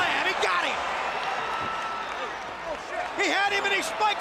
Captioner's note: crowd cheering